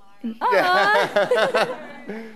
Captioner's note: laughing